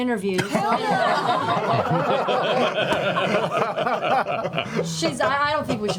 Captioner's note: laughter